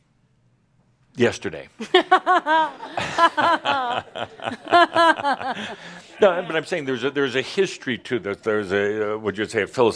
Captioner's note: laughter